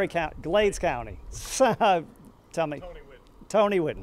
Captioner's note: chuckles